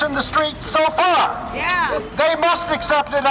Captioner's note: voiceover